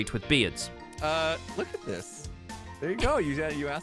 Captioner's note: baffled noises